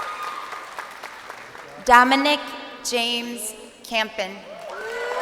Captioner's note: crowd cheering